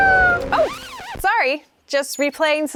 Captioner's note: record scratch